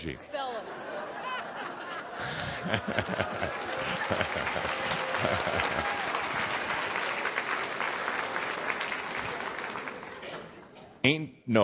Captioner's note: lots of laughter and audience applause, Kuthumi laughing